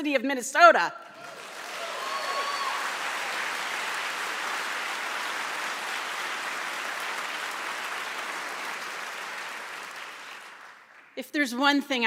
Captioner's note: cheers and applause